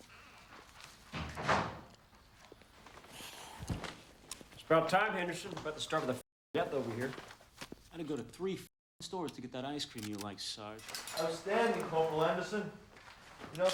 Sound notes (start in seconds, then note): 1.1 door thuds